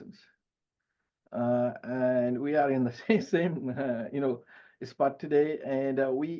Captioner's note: chuckles